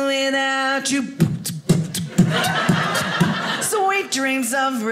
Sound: beatboxing

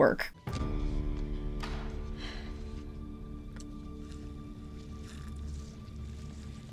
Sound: dramatic music; breathes deep

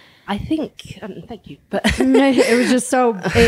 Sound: laughing

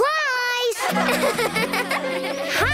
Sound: laughing

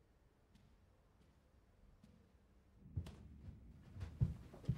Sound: none

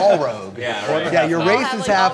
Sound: people talking

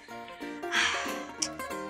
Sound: sighs

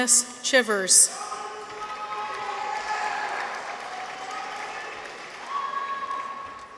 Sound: people cheer; audience applauds

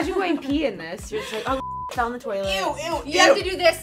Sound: beep

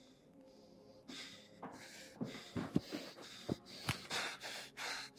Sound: Ezra panting

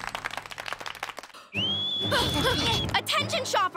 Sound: clapping; whistling, panting

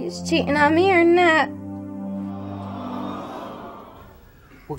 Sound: audience groaning

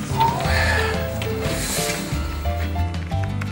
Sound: sighs

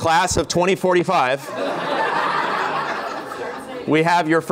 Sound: laughter

